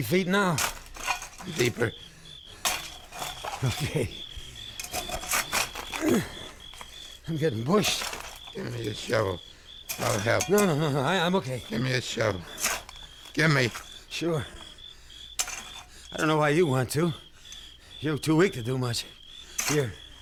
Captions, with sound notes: No. >>Down over three feet now. >>Deeper. >>Okay. [ Dirt crunching ] [ Grunts ] I'm getting bushed. >>Give me a shovel. I'll help. >>No, no, no, no. I'm okay. >>Give me a shovel. Gimme. >>Sure. I don't know why you want to.